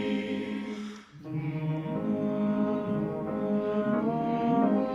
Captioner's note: humming